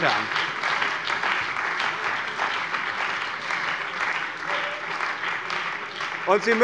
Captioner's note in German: Beifall bei dem BÜNDNIS 90/DIE GRÜNEN und der CDU